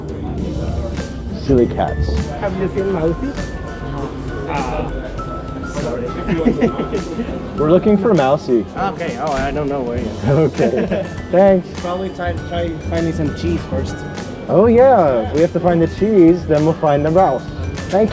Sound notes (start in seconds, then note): 6.1 laughing